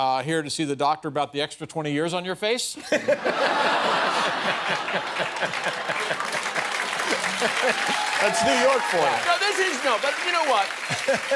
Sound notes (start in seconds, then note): 2.8 laughter; 6.7 applause